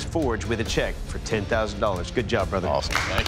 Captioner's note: applause